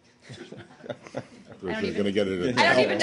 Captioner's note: laughter